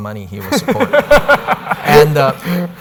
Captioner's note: laughter